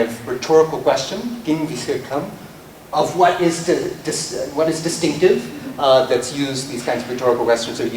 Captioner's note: non-english speech